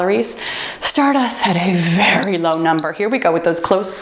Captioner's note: timer beeping